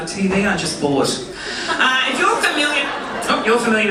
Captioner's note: audience laughing